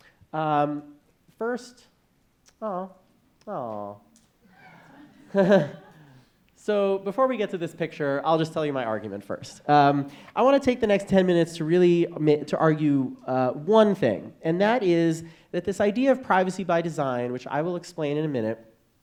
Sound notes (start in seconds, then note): 4.6 audience laughing